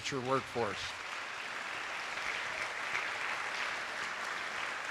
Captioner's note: attendees applauding